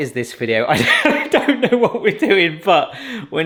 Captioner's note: laughing